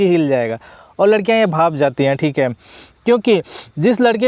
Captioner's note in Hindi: नाक से की जाने वाली आवाज़